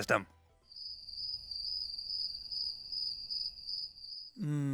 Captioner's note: crickets chirping